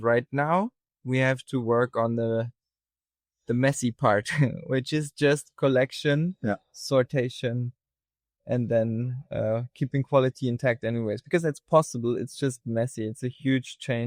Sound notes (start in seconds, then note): 4.3 chuckles